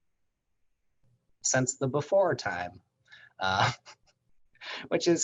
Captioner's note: chuckles